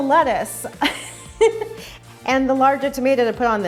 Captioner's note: laughs